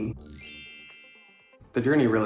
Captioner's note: chimes ringing